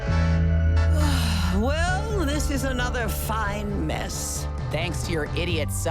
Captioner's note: sighs